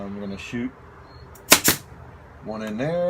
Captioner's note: nail gun operating